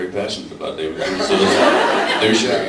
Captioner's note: laughs